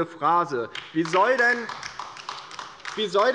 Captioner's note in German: Beifall der Abg